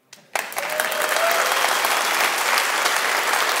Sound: applause

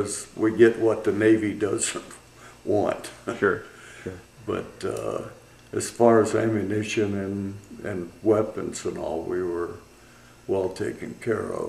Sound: laughs

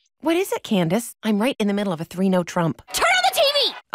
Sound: none

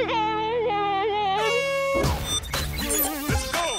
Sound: horn honking

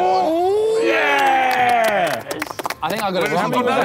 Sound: clapping

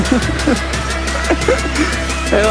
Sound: laugh

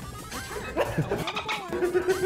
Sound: laugh

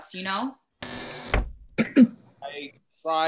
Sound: cabin door creaks

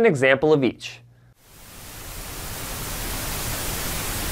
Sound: static

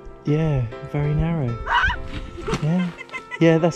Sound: laughter

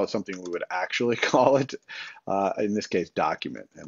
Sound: chuckles

